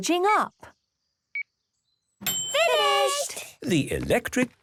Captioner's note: dings